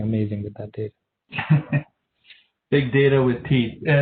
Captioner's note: moderator laughing